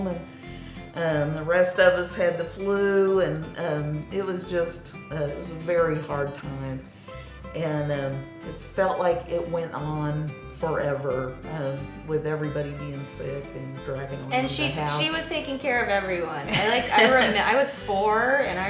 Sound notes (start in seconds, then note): 14.5 murmurs; 16.4 laughing